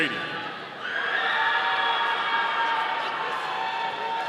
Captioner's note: audience cheering